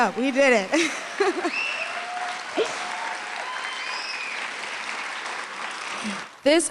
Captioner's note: applause